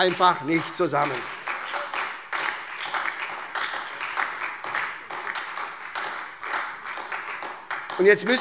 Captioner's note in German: Beifall SPD und Freie Demokraten